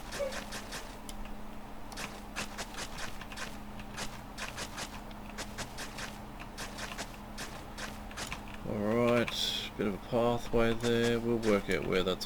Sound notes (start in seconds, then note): 0.9 typing